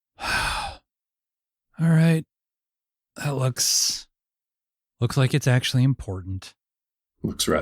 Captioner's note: sighs